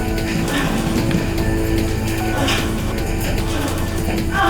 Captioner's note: Katie groaning